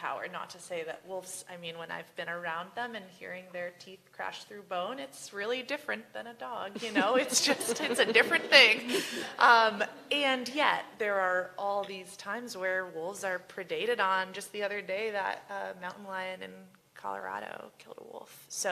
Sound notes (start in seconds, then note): 6.7 laughter